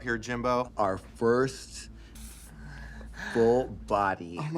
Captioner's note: moaning softly